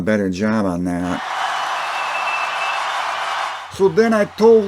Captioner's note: crowd cheering